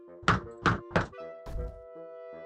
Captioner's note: knocks